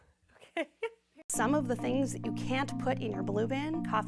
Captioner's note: laughing